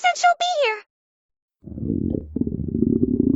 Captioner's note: intense growling after not eating for 0.00000000000034 seconds